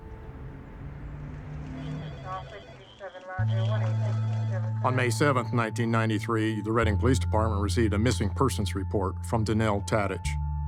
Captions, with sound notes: (phone ringing) (police radio chatter) - On May 7th, 1993, the Redding Police Department received a missing person's report from Danelle Tadych.